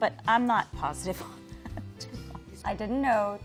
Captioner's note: laughs